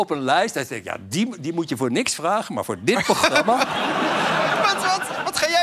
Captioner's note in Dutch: gelach